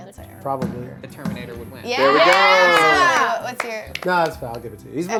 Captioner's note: overlapping chatter